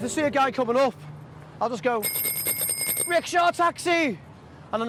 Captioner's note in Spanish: Toca el timbre